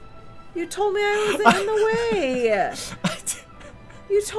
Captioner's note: flabberghasted laughing